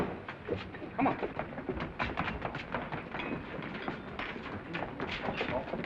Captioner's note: footsteps receding